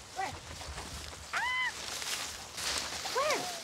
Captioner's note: screams